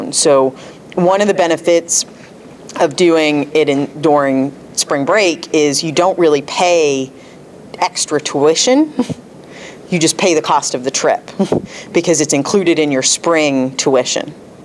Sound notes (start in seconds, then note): 9.0 laughs